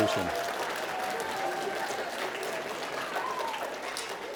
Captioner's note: applause